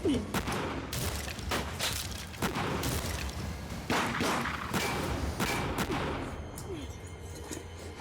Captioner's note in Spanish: continúa fuego cruzado